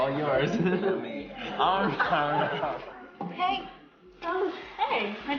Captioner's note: laughs